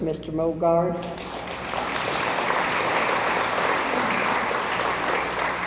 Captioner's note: audience applauds